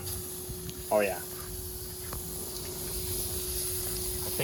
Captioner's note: hissing